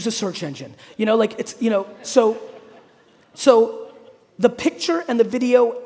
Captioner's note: audience laughing